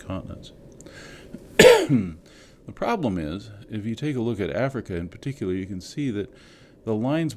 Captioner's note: cough